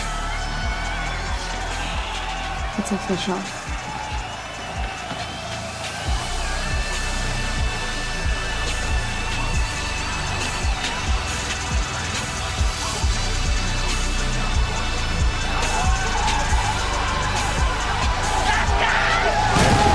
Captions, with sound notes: [shushes] It's official. [synth pop music] [cheering] Let's go!